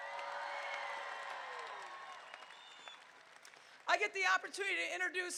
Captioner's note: crowd cheering